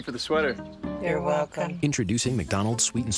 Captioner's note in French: In Unison